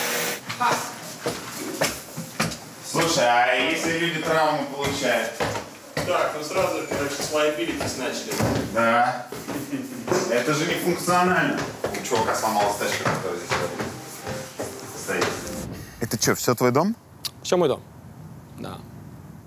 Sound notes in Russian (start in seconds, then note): 1.0 звук шагов; 8.9 смеётся